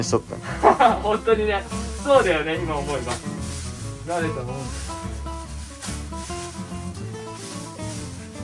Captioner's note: laughs